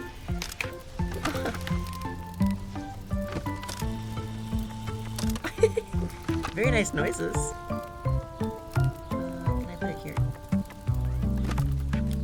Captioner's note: giggles